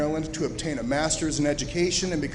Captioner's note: none